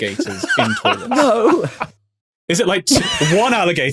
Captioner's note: laughs uproariously